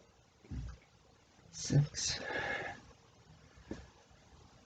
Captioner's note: exhales